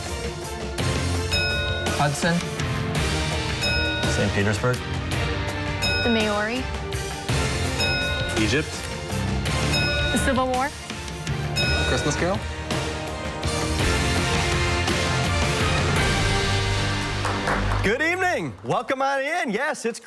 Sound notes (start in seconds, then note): 3.0 bell rings; 7.2 bell rings; 13.3 heroic music